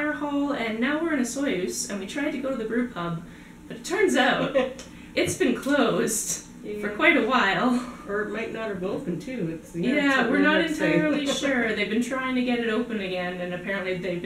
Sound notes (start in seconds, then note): 4.2 laughter